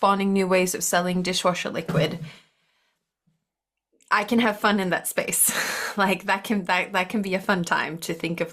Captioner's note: chuckles